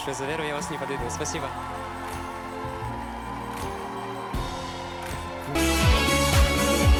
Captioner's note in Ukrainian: оплески